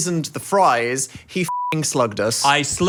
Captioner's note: beep